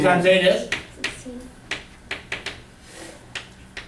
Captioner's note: voiceover